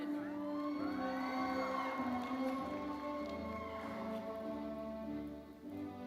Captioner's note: audience cheering and applauding